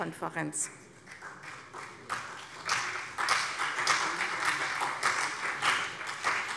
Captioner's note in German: Beifall CDU